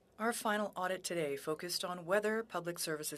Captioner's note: speaking French